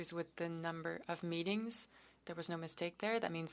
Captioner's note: speaking French